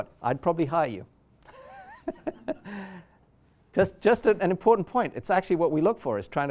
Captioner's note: chuckles